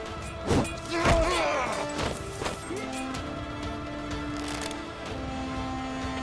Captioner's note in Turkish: Ok fırlatma sesleri; Dövüş sesleri